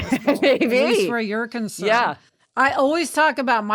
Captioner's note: laughs